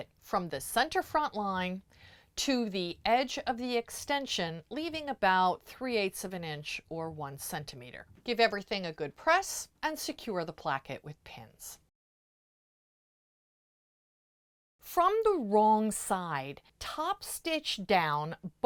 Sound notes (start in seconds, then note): 11.9 no Sound Present